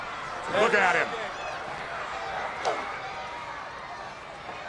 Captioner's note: crowd yelling